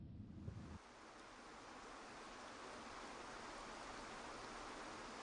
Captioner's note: water flowing